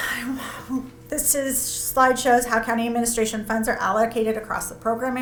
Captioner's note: sighs